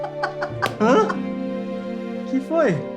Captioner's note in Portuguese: risos